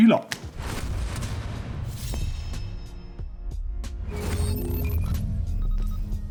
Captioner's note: dramatic high tech beeping